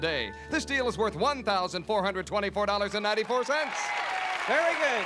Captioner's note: applause